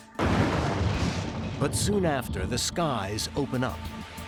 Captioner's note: thunder rumbling